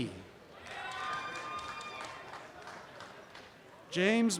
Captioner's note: applause and cheering